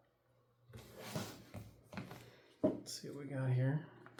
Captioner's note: plastic rustling